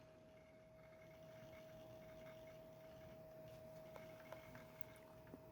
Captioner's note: laptop hard drive spinning